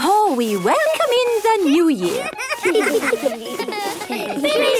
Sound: laughter

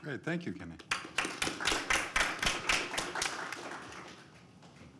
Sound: applause

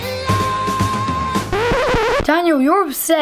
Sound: record scratches

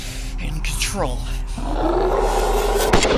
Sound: CREATURE roars

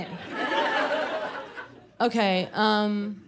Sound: laughter

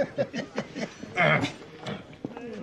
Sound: Tony and Silvio laughing; Tony clearing his throat dismissively

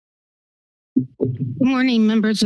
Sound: silence; mic thump

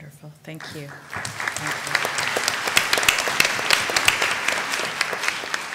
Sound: applause

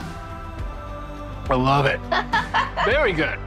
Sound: laughs

